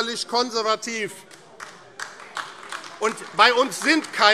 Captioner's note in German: Beifall AfD